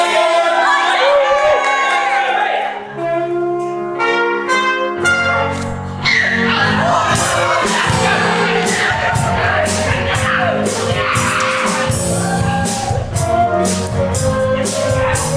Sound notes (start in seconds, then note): 0.0 audience cheer; 3.4 Meanies scream in anger